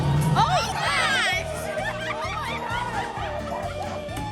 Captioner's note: exclaiming, nervous laughter and occasional screaming